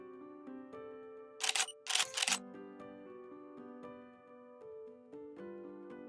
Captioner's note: click click